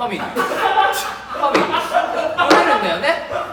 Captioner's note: all laugh